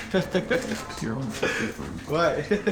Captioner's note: all laughing